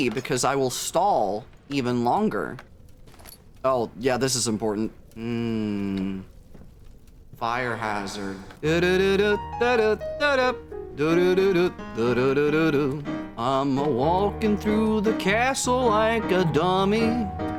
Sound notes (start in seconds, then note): 7.8 humming; 13.4 singing